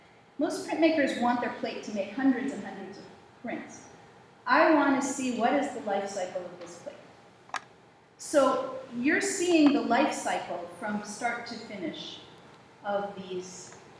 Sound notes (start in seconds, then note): none